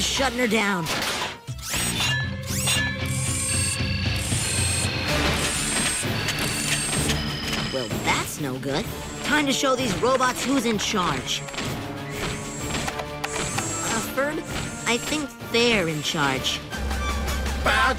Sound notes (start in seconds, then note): 4.2 whirring and beeping